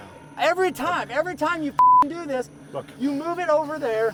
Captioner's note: beep